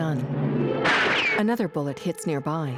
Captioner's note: gunshot